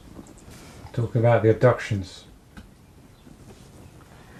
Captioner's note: voiceover